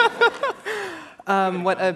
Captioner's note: laughter